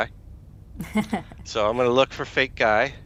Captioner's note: laughs